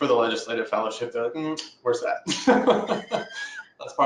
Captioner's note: laughs